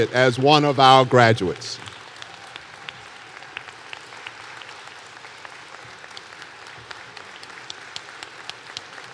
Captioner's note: applause